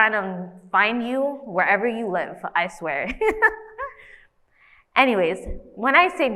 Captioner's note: laughs